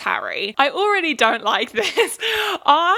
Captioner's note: laughs